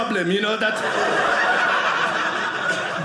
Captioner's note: audience laughing